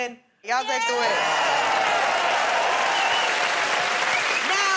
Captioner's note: cheers and applause